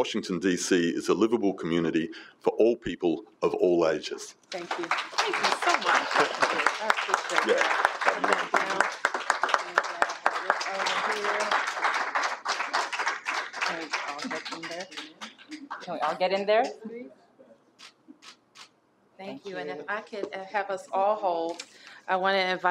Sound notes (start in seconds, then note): 7.2 applause